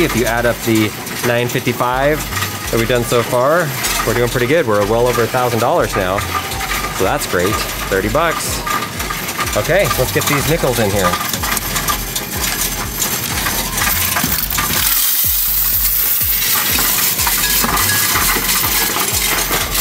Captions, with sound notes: If you add up the 955 that we've done so far, we're doing pretty good. We're well over a thousand dollars now. So that's great. 30 bucks. Okay, let's get these nickels in here. (coins rattling) (upbeat music)